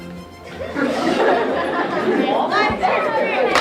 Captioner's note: laughter